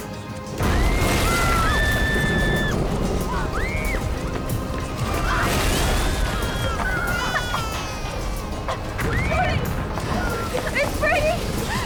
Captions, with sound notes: (girls screaming) (Brady crying) - Brady! - Is Brady?